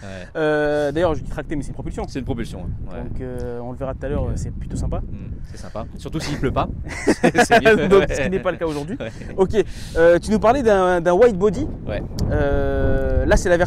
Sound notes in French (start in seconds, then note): 6.8 rires